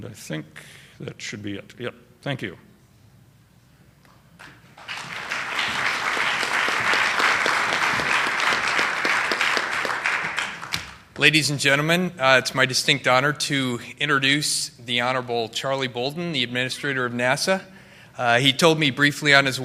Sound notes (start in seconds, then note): 4.7 applause